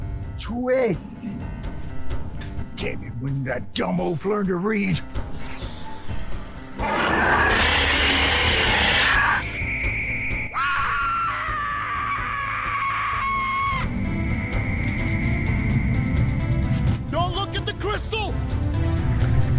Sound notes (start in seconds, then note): 6.8 angry roar; 9.4 high-pitched ringing; 10.4 loud scream; 14.2 high-pitched ringing